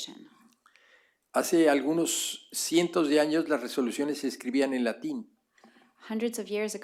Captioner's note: speaking spanish